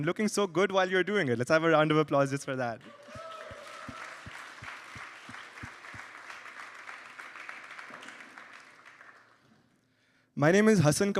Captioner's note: applause